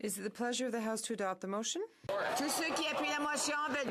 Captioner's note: speaking in French